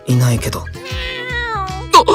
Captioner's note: meow~